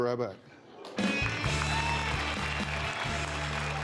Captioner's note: cheers and applause